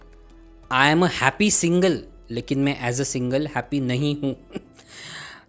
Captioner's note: snickers